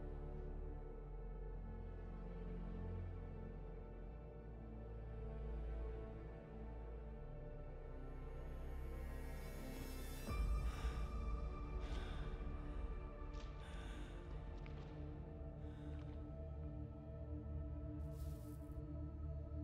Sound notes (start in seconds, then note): 10.3 labored breathing; 11.3 ominous music